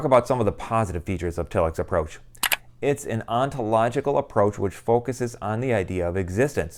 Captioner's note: mouse click